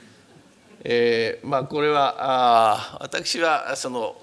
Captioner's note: speaking japanese